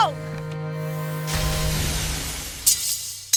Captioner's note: death SFX; clattering